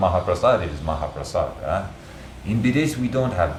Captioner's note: foreign country – Nepali